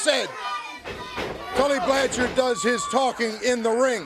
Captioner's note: crowd cheering